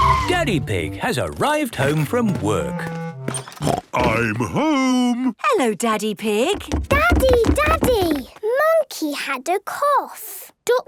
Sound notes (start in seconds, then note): 3.6 snort